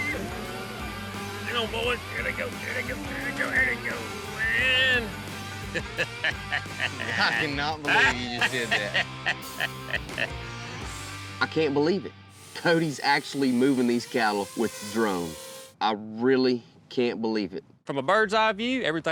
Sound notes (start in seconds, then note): 5.6 chuckling